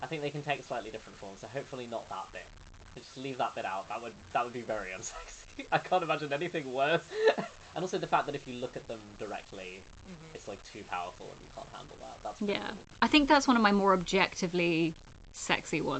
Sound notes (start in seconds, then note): 7.0 laughing